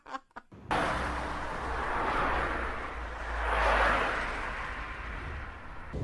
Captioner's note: woman laughing; sound of cars driving on the highway at high speed